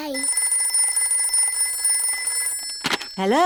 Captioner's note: phone rings